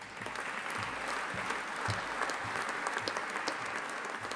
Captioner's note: audience applauding